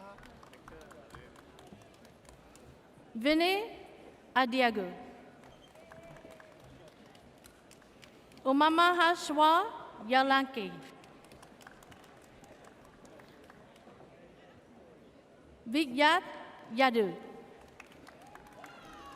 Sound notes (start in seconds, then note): 11.0 audience applauds